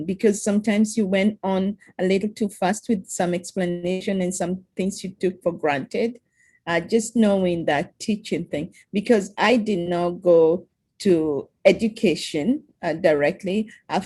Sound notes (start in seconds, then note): none